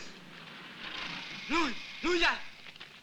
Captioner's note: Malay spoken audio